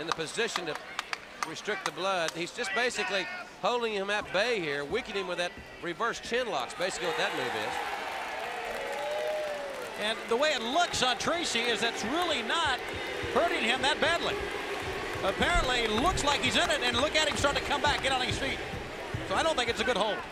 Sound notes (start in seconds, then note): 10.4 crowd cheering